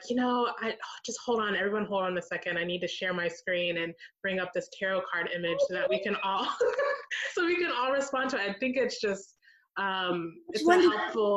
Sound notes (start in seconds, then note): 5.4 excited noises; 5.4 laughs